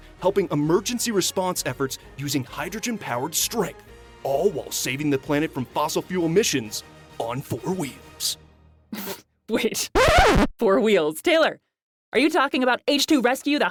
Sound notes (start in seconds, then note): 9.9 record scratch sound